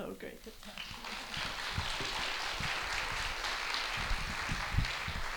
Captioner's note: audience applauds